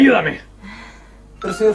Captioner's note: sigh